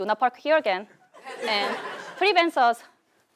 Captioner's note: laugh